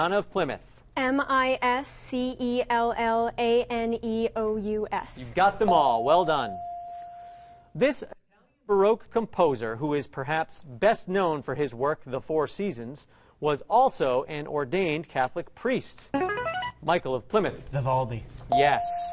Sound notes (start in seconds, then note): 5.7 ding; 16.1 ringer; 18.5 ding